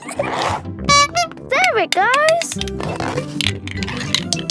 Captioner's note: giggling; honking